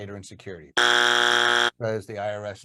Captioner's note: buzzer rings